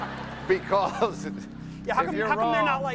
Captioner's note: laughter